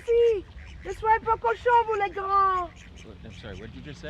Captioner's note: Cassie speaking in French